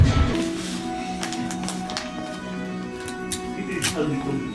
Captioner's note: paper folding; tape ripping